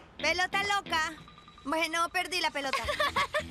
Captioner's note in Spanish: riendo